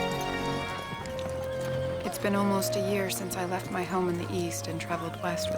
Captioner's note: woman Narrating